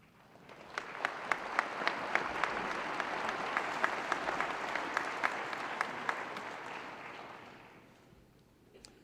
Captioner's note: applause